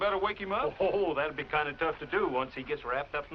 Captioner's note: chuckles